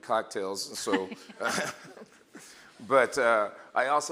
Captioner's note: laughing